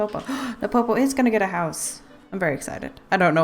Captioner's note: gasp